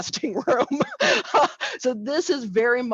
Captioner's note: laughs